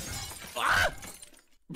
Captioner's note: glass shattering; screams